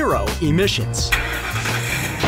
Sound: car starting and loud bang

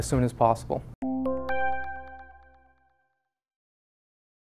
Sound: logo chiming

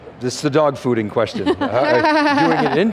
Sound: laughs

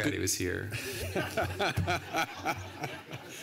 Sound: laughter

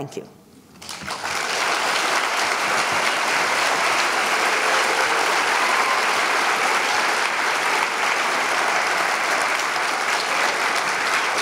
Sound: applause

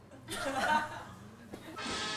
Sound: laughs belatedly

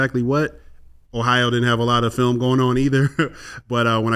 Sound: laughs

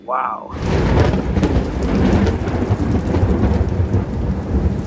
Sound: thunderstorm

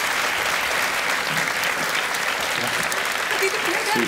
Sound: audience clapping

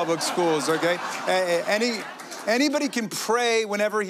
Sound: laughter

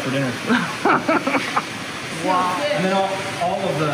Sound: laughing

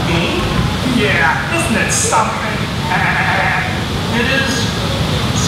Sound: laughs

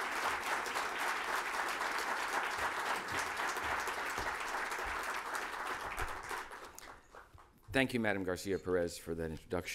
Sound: applause

